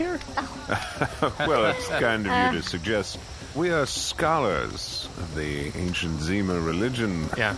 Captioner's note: laughs